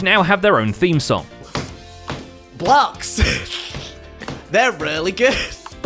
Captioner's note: keeping beat by pounding on desk